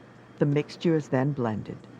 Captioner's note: voiceover